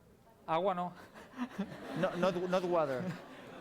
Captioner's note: non-english speech